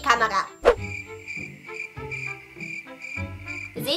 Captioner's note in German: Grillenzirpen